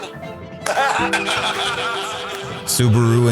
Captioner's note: guys laughing